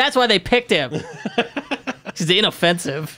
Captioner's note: laughing